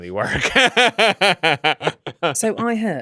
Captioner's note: laughs